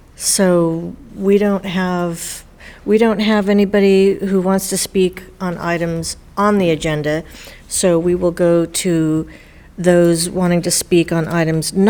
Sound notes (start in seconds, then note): none